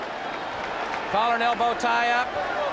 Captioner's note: crowd chatter